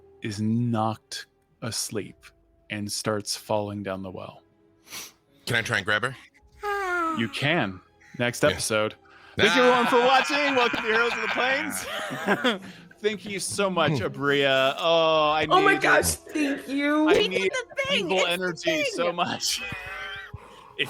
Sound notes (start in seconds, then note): 6.6 sighs; 12.6 laughs; 20.2 wheezes